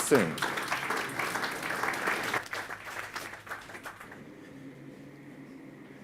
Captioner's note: audience claps